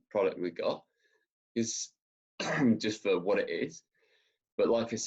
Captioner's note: coughs